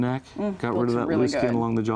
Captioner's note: sighs